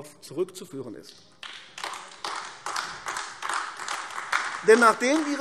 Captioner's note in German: Beifall AfD